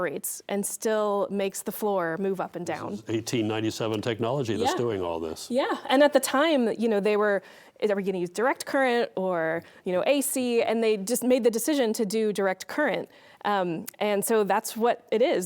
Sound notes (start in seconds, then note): none